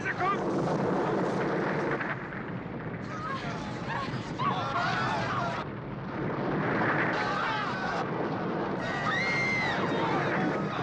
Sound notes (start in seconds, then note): 3.0 chattering, Screaming Continues